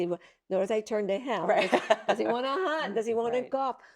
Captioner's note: laughs